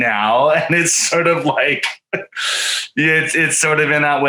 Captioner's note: chuckles softly